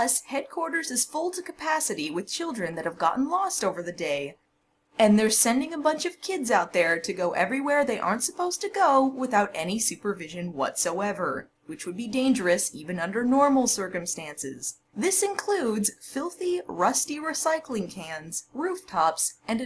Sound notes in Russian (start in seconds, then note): none